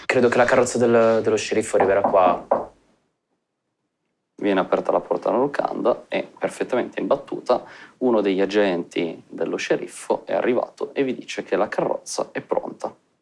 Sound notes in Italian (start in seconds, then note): 0.2 Bussano alla porta